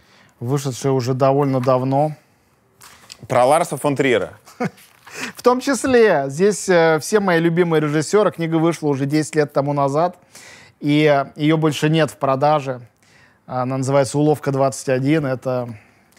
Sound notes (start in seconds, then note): 4.4 chuckles